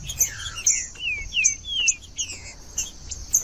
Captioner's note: trinca ferro cantando